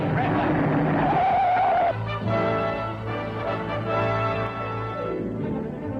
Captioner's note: brake screeching